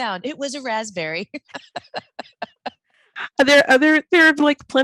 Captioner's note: laughing